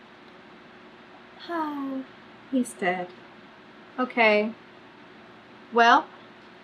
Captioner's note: sighs